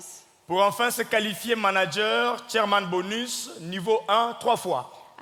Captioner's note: speaking in French